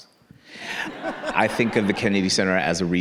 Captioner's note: audience laughing